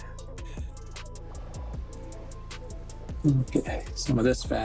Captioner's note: crackling